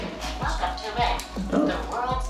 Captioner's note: recorded Voice